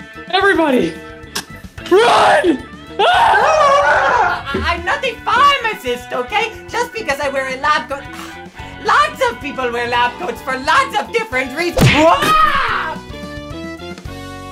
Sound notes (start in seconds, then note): 2.9 collective screams; 11.7 smack; 11.8 scream